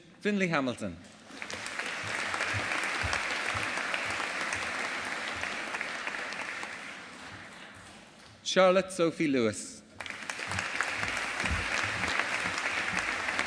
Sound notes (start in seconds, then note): 1.2 audience applauding; 10.0 audience applauding